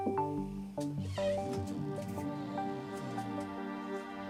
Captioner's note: door creaks